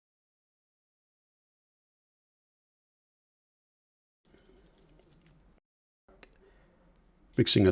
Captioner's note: silence